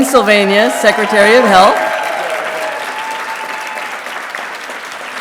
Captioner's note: audience applauding